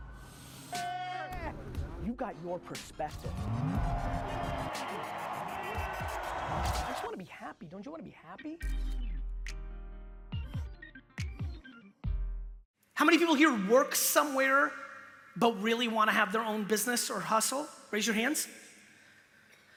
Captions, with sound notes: (slow music) You got your perspective. (crowd cheering) I just wanna be happy. Don't you wanna be happy? (slow music) How many people here work somewhere but really wanna have their own business or hustle? Raise your hands?